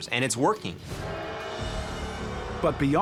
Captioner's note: crowd booing